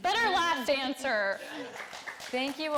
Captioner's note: audience clapping and laughing